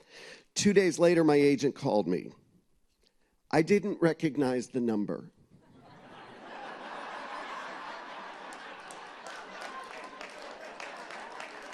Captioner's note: laughter